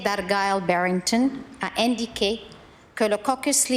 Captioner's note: speaking in French